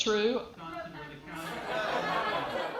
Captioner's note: laughter